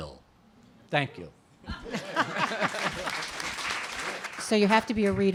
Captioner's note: applause and Laughter